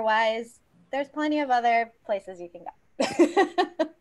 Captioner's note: laughs